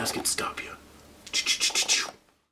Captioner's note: fake gun sound effects